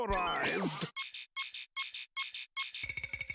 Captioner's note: beeping